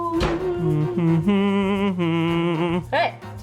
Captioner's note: humming